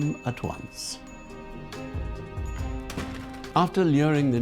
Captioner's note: bell tinkling